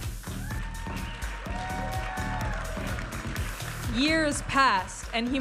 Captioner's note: audience applauding and cheering